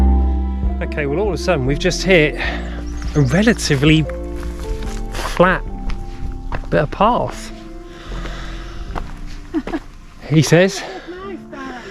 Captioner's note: laughs